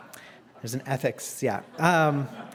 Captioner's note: laugh